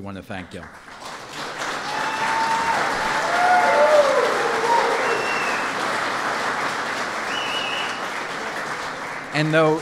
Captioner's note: applause